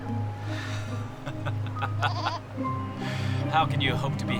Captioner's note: laughs